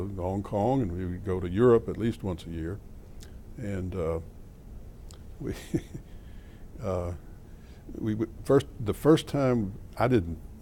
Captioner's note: laughter